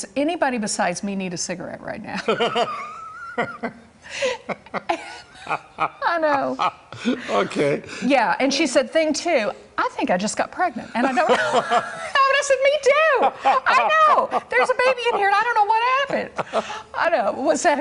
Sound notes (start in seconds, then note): 11.0 laughter